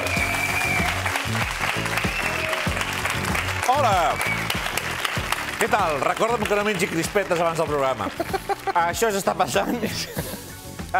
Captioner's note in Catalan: aplaudiments